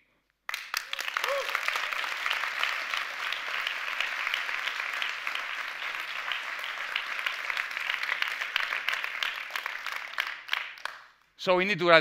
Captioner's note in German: Applaus